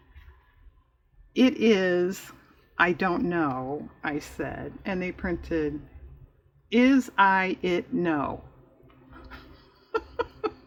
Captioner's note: laughs